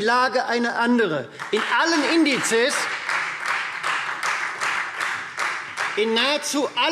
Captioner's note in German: Beifall Freie Demokraten